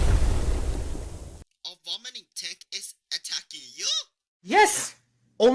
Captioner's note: on phone